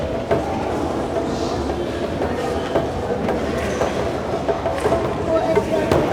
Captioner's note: crowd chattering; speaking in foreign language